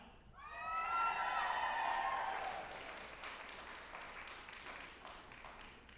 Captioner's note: group applauding and cheering